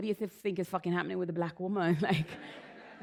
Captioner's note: laughter